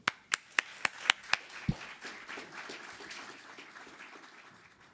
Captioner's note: audience applauding